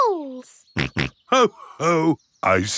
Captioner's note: snorts